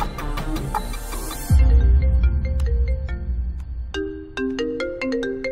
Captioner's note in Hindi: फोन की घंटी बजना